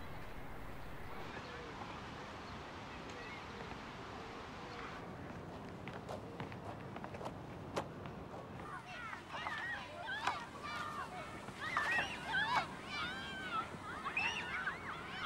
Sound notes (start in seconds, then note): 8.6 children chatter and laugh